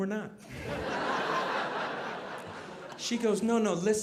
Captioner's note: audience laughing